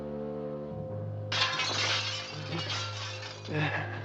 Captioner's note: glass shattering